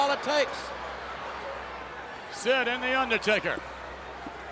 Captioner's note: applause